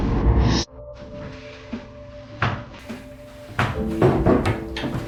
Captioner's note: doors opening and closing